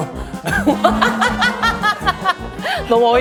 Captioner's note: lingering resonance